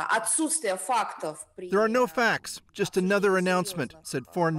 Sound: speaking Foreign Language

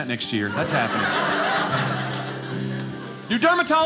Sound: audience laughing

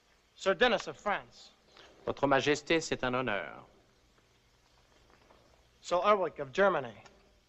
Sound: speaks in French

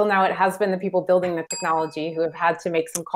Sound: bell dings

